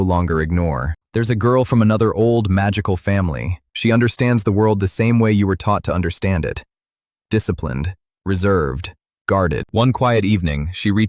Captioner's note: thoughtful